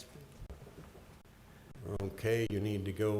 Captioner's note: board chatting quietly